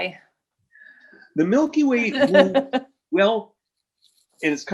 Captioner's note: announcer laughs